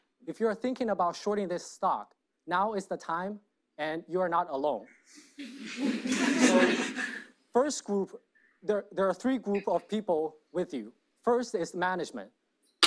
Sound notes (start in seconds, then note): 5.4 audience laughs